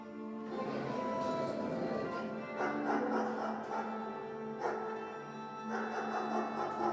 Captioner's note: dog barking; dog growling